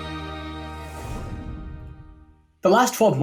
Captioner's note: air whooshing